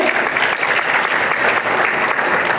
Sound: applause

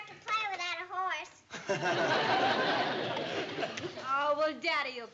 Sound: chuckles

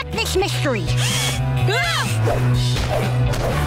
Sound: shrieking

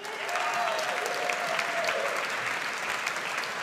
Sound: audience applauds

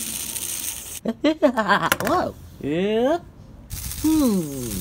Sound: laughter

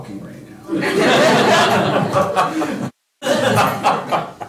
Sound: laughter

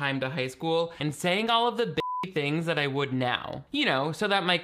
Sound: beep

